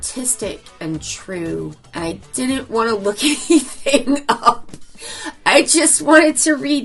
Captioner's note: laughs